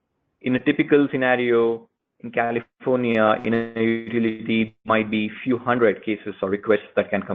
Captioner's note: audio glitch